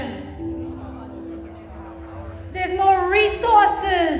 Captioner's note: group speaking quietly